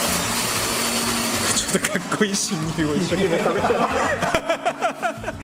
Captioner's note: laughs